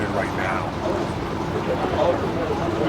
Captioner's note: non-english speech